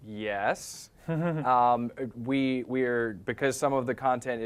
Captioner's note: laugh